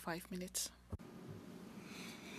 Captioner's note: speakin/9 French